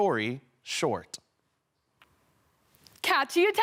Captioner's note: silence